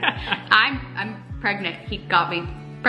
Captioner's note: laughing